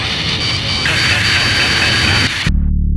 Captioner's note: Pixy laughs